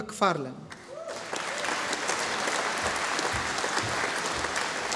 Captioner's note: audience applauding